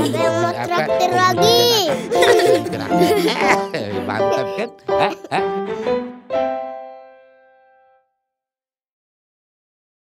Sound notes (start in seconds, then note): 1.9 laughing